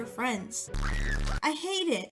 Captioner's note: Charlotte screaming with bass boost sound effect